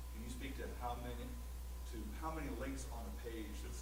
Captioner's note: voiceover